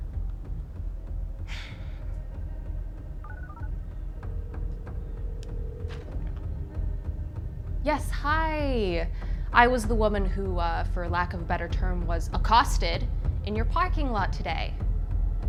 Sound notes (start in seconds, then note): 3.2 phone speed dials; 3.2 phone ringing